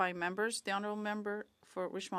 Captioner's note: speaking French